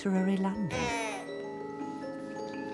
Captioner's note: baby cries